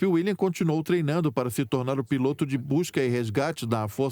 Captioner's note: voiceover